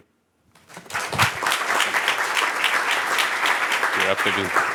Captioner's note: applause